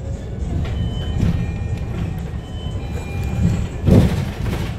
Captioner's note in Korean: 하차벨 소리